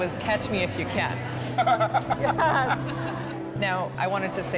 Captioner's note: laughter